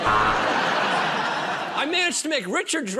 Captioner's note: buzzer